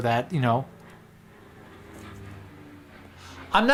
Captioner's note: small plane flies overhead